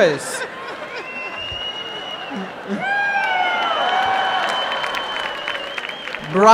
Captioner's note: cheering and applause